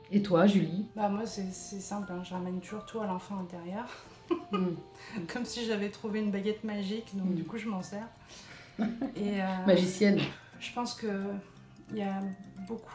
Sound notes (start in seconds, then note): 3.9 laughing